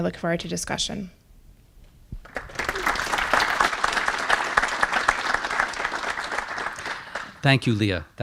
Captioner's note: applause